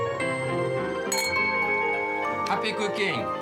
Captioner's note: glasses clink